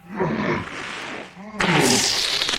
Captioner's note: boom